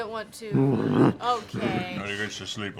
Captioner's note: growls